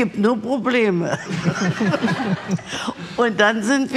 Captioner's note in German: Lachen